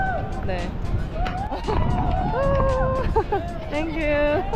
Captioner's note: students cheering